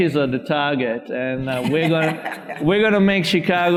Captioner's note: audience and panelists laughing